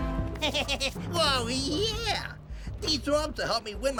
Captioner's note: chuckle